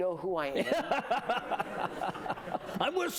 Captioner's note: laughter